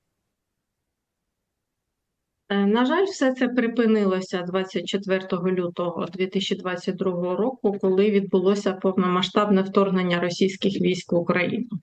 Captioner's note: foreign language